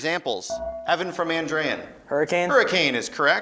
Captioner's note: beeping